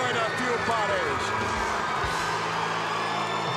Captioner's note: crowd cheering